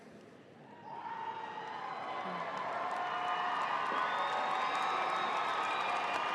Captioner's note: audience cheering and applauding